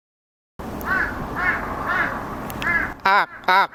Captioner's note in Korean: 새소리